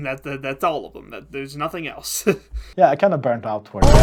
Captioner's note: laughs